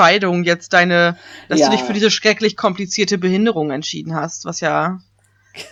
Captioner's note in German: ironie